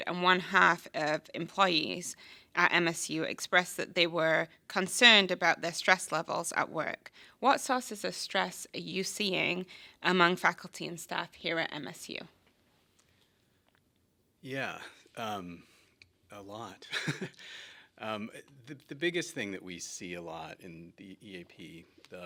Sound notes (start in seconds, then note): 16.9 laughs